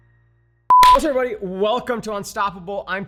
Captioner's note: beeps